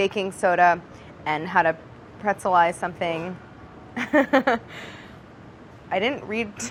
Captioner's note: laughs